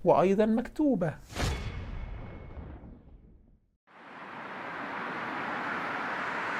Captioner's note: sound effects